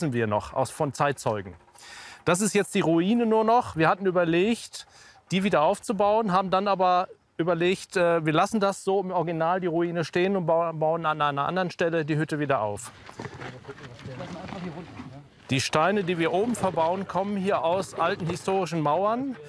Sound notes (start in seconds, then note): 13.1 quiet conversations